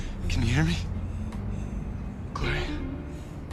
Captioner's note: shallow breathing